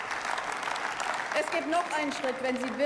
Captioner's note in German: Beifall